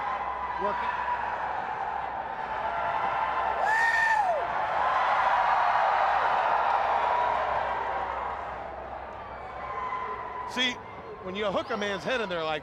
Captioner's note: crowd cheering